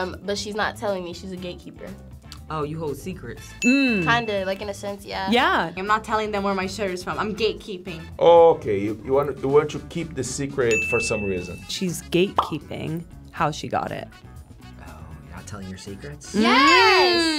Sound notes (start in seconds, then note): 3.6 bell dings; 10.7 bell dings